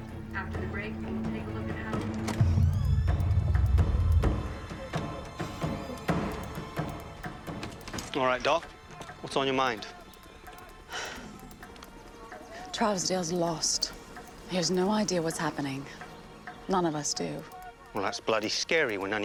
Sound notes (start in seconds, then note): 10.9 sighs